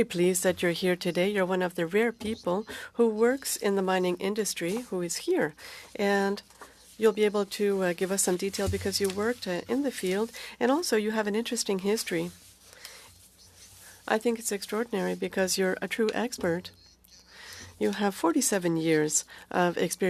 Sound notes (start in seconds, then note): 1.3 speaking French